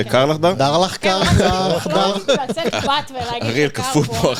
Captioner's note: laughs